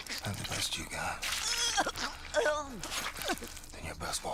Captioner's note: choking, groaning